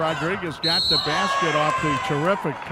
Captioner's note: referee whistling